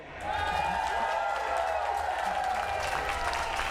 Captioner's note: cheering and applause